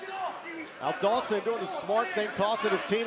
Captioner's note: crowd chatter